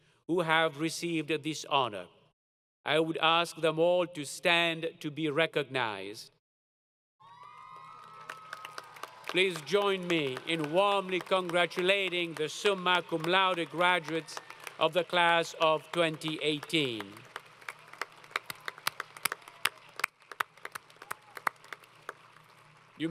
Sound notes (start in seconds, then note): 7.2 applause; 17.7 applause